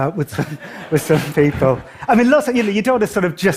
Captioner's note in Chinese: 笑聲